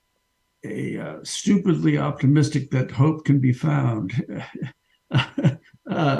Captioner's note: chuckles